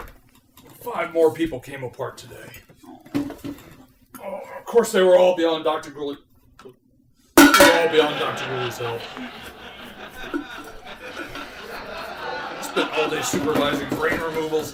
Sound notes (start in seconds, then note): 3.9 groan; 7.4 clunk; 10.0 clunking